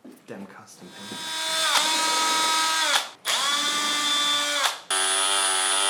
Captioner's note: screws being drilled